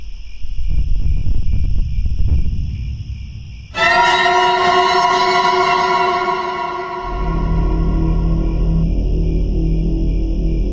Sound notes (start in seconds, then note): 0.1 crickets; 3.7 jump scare; 6.9 eerie music, crickets